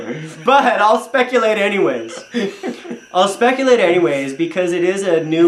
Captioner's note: chuckles; laughs loudly; chuckles